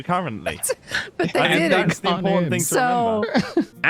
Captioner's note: laughs